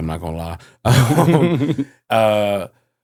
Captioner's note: laughing